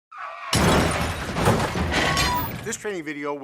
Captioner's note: sounds of tires screeching and vehicles colliding